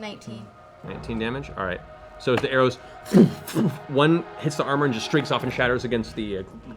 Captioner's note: thud, thud